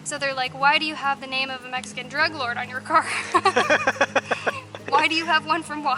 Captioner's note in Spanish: Risas